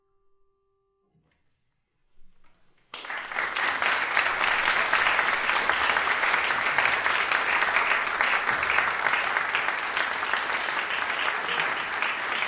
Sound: applause

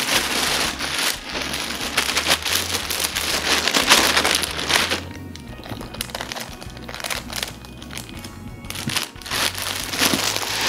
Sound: sound of crinkling bag

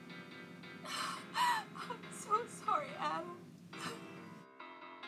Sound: sob

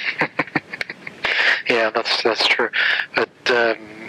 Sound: laughs

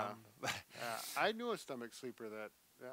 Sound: chuckling

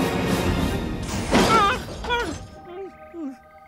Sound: Kermit gasps

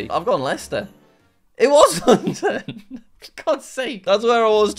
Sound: laughs

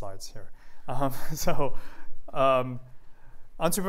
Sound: laughter

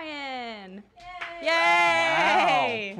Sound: cheering

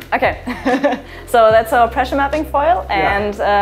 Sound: laughs

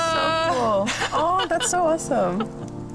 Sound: laughs

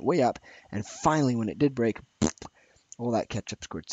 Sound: blows raspberry

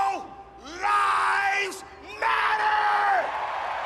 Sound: cheering

